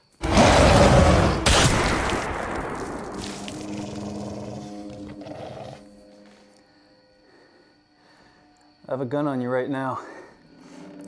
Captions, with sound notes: (werewolf growling) (gun firing) (werewolf growling) (tense music) - I have a gun on you right now.